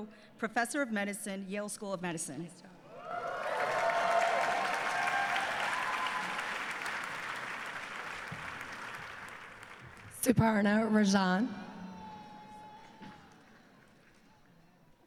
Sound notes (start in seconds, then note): 2.8 cheering and applause